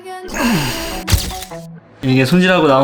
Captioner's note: groans